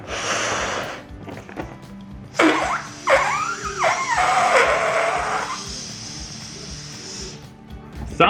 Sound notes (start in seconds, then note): 2.3 balloon squeaking loudly